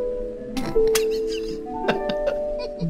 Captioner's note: chuckle